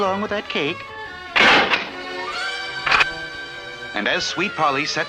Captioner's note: door Closes & then locks